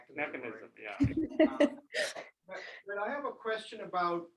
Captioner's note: chuckles